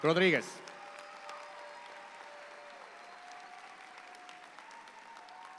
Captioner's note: audience applauding